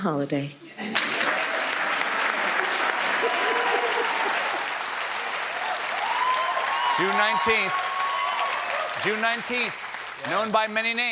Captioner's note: cheers and applause